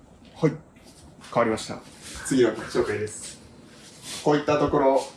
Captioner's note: alien voice